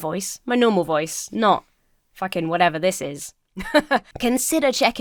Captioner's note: laughs